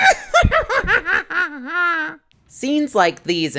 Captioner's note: evil laugh